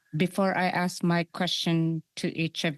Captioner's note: speaking French